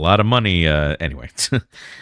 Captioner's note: uh